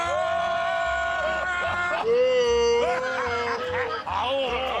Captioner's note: cheers and applause